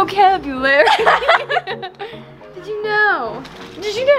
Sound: both laugh

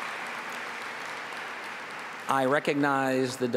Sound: applause

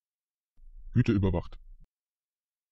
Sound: fast Pronunciation

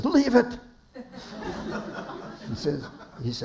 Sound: laughter

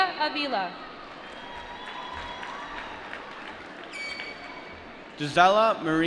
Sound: applause

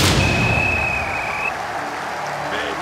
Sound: whistle blowing

